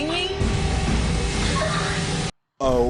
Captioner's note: weird ghost girl squeak again